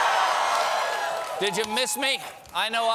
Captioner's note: cheers and applause